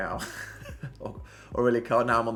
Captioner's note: laughs